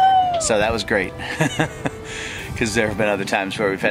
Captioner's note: laughs